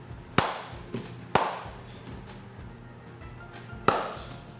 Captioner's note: claps hands